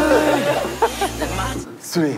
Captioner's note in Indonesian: Hahaha